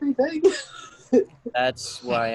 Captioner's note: laughing